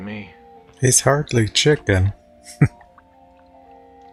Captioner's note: chuckling